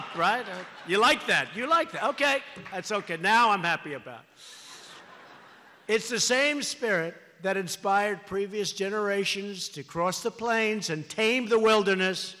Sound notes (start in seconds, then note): 4.5 laughter